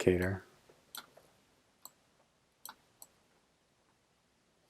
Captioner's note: mouse clicking